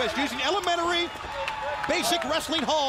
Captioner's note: crowd cheering